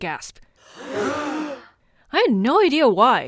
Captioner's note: gasp